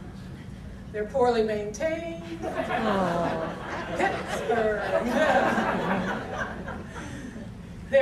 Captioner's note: audience laughter